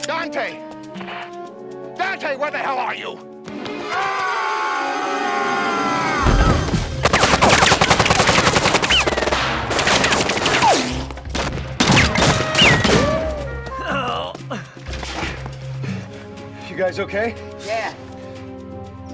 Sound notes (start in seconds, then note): 3.6 screaming; 6.3 guns firing; 7.4 dramatic music